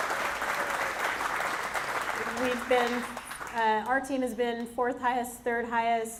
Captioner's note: applause